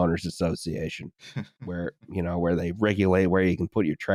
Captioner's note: small laugh